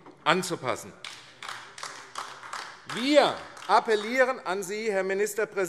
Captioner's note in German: Beifall AfD